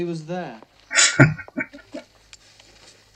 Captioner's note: chuckling